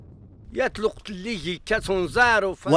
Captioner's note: speaking Amazigh